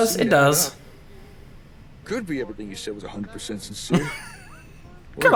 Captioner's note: laughs